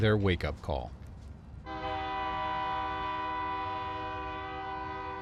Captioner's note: train horn